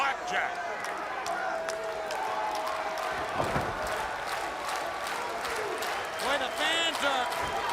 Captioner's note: crowd cheering